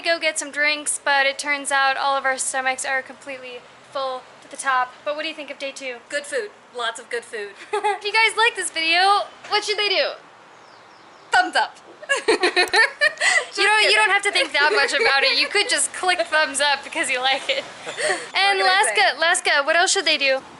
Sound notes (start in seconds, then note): 12.0 laughter